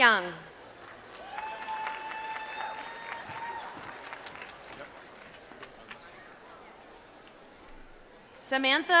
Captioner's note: applause